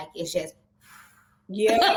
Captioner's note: sighs contentedly